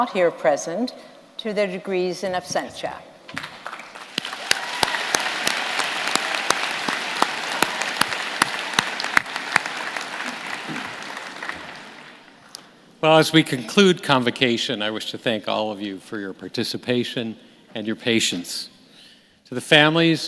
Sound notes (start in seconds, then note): 5.8 applause